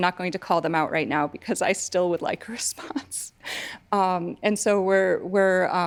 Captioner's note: chuckling